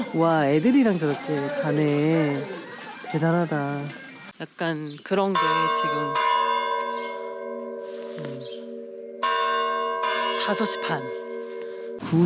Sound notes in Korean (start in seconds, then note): 5.2 맑은 종소리